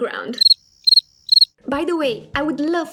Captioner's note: crickets